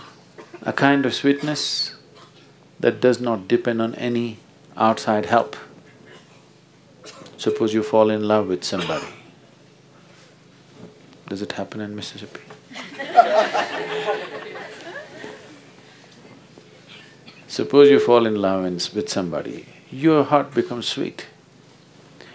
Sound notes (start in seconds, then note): 15.9 laughter